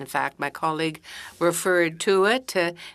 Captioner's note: speaking French